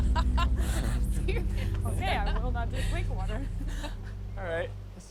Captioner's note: laughs